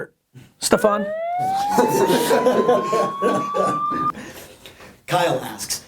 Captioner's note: sirens